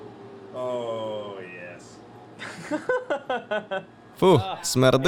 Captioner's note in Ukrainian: Дерек сміється